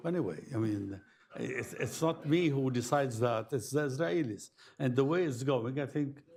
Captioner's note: laughter